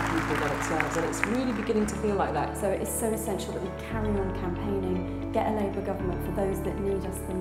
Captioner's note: applause